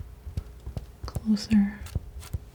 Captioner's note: scratching